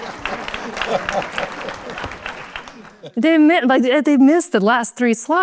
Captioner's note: applause